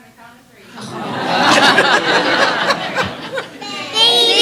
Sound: laughter

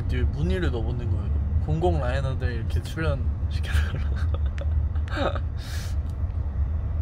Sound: laughs

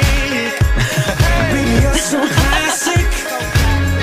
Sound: awkward laugh

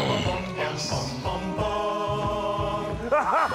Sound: sniffs

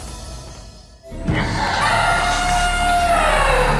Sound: elephant trumpets

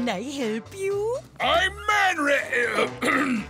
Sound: clearing throat

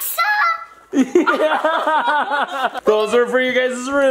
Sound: parents laughing

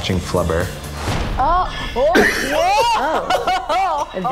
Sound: laughing

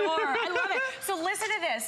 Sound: laughter

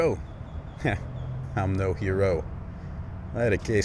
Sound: scoffs

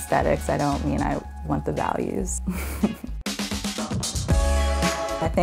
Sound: giggles

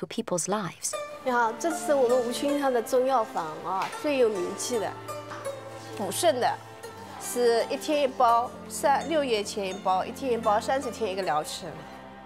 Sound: speaking Chinese

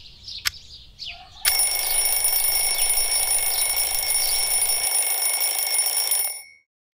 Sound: alarm rings

